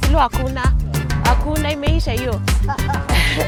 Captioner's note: laughter